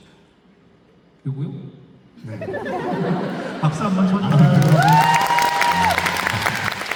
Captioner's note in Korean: 웃음; 환호; 박수